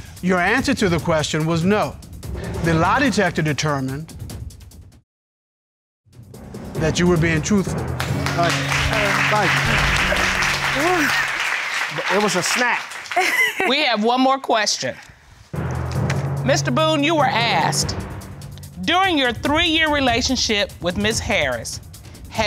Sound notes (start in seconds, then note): 7.9 audience applauds; 10.4 sighs; 13.1 giggles